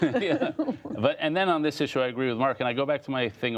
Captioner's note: laughter